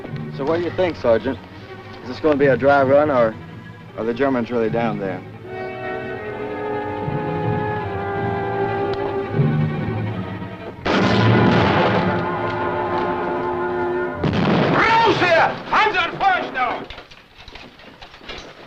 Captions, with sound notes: - So, what do you think, Sergeant? Is this going to be a dry run, or are the Germans really down there? [vintage music] [explosion] [vintage music] - [foreign language]